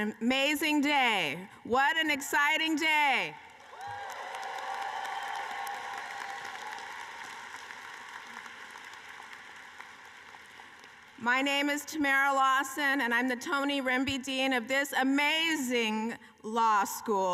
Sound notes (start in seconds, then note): 7.9 cheering and applause